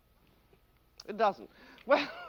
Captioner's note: laughs